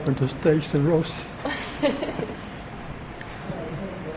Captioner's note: laughter